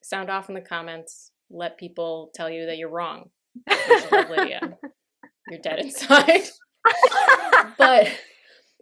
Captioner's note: laughter